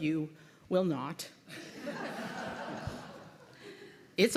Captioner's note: laughter